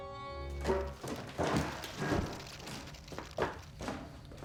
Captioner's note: skittering